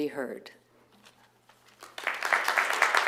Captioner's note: applause